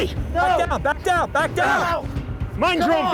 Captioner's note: shouting